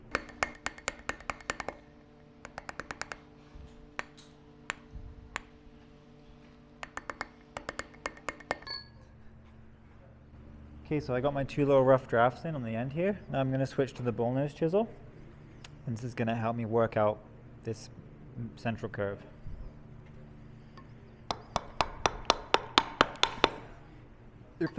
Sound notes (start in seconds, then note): 0.0 metal hammering; 8.8 metal clanking; 21.2 metal hammering